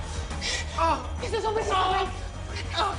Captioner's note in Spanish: Quejidos